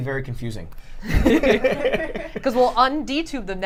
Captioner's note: laughter